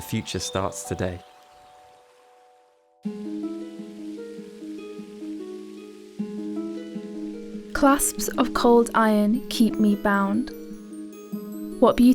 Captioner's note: running water, gentle music